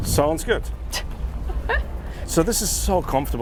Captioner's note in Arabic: تضحك